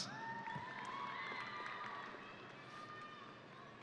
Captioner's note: audience cheering